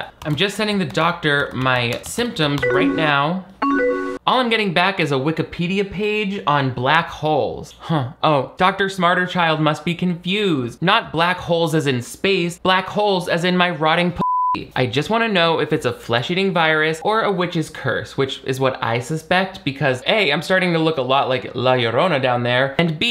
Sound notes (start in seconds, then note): 2.6 computer chimes; 14.2 beep